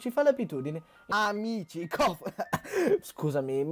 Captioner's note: cough